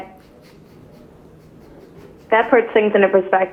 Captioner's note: chuckling